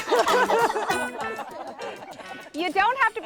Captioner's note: laughing